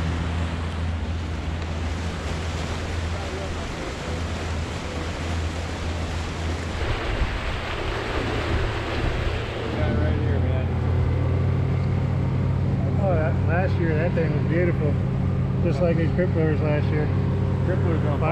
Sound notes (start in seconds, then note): 2.9 boat engine running